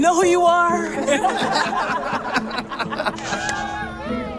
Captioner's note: all laughing